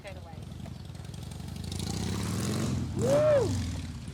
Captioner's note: motorcycle engine rumbling